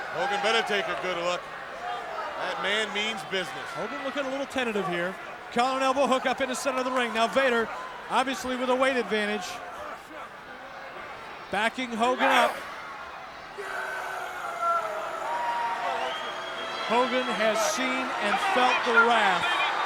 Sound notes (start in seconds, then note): 14.2 Vader yells